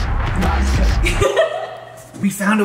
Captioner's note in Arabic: أمي تضحك